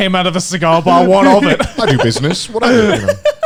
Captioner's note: laughing